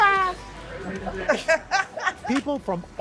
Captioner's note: laughter